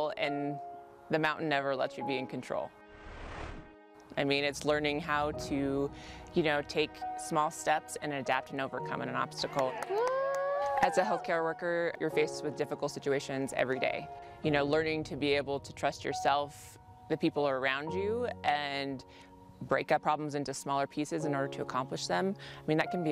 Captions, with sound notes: AND THE MOUNTAIN NEVER LETS YOU BE IN CONTROL. IT'S LEARNING HOW TO TAKE SMALL STEPS, AND ADAPT, AND OVERCOME AN OBSTACLE. [CHEERING] AS A HEALTHCARE WORKER, YOU'RE FACED WITH DIFFICULT SITUATIONS EVERY DAY. LEARNING TO BE ABLE TO TRUST YOURSELF, THE PEOPLE AROUND YOU, AND BREAK UP PROBLEMS INTO SMALLER PIECES IN ORDER TO ACCOMPLISH THEM.